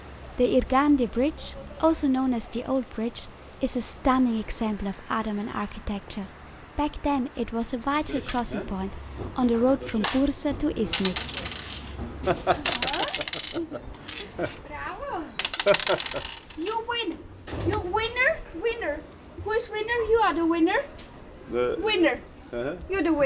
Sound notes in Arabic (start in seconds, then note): 12.6 صوت سقوط النرد; 14.2 ضحك